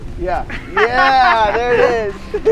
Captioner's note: group laughs